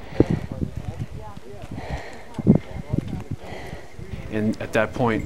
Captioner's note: breathing heavily